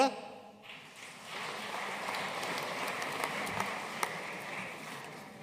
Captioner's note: audience applauding